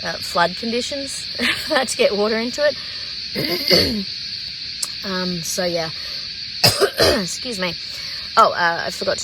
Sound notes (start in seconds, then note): 3.4 clears throat; 6.6 coughs